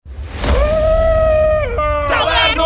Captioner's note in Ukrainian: Кричить